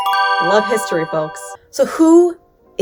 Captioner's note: chimes ding